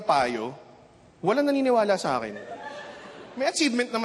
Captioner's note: chuckling